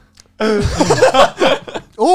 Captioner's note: laughs